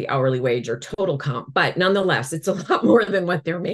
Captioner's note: chuckles